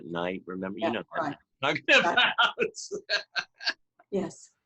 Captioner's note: laughs